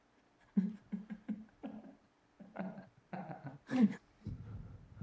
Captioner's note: laughing